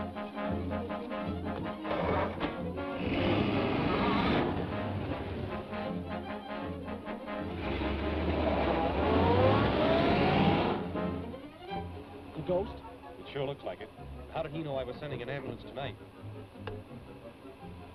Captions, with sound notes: (engine rumbles) (exciting music) - The Ghost? - It sure looks like it. How did he know I was sending an ambulance tonight?